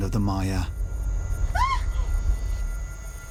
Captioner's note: screams